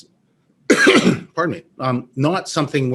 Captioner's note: coughs